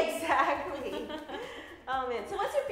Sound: laughs

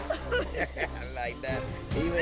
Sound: chuckles

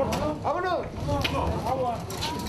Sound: pasos

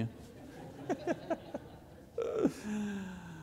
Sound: laughs

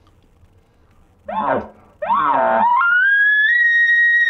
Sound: elk call sound

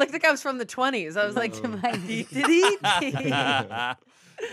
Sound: everyone laughs

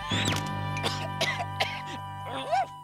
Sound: cough cough

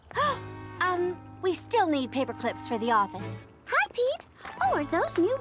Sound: gasps

